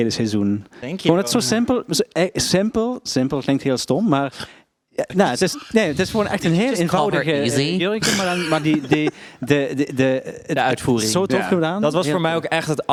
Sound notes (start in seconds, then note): 8.0 giggles